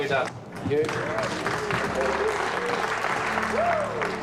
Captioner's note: crew applauding